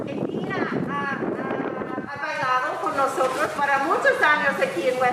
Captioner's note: speaking in foreign language